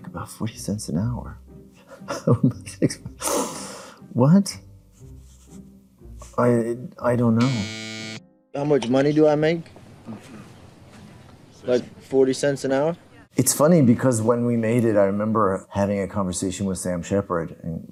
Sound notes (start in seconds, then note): 1.8 laughing; 7.4 buzzer buzzes